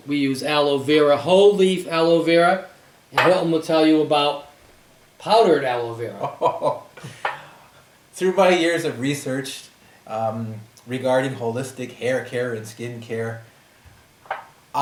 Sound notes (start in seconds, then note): 6.2 laughs